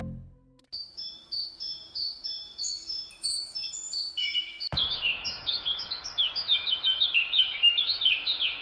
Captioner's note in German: tropischer Waldklang